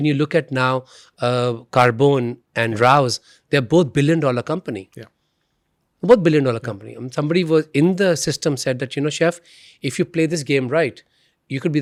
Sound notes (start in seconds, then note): none